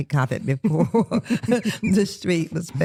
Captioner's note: laughter